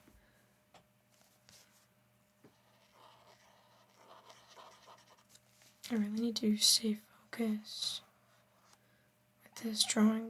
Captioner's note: silence